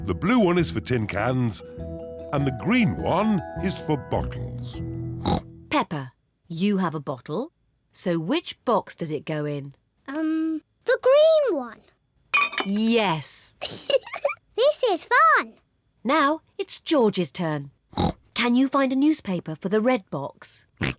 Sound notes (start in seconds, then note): 5.2 snorts; 13.6 giggles; 17.9 snorts